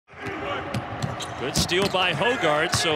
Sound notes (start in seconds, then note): 1.5 ball bouncing